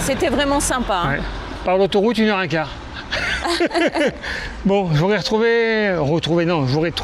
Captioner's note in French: rires